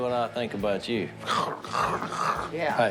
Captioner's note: mimes slobbering